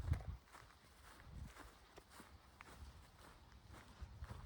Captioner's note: footsteps